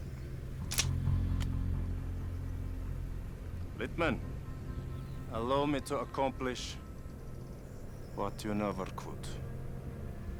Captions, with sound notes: (gun clicking) Littman, allow me to accomplish what you never could.